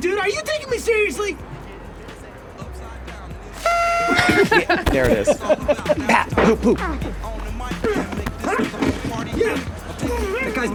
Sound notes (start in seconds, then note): 3.4 horn blows; 3.9 all laughing; 7.8 Charlie grunting